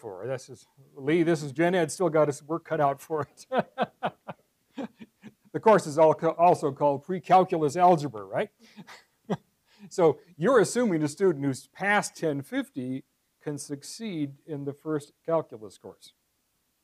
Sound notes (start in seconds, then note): 3.2 laugh; 8.8 laugh